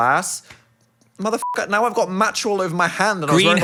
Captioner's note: beep